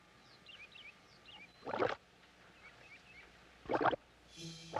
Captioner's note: birds chirping; water bubbling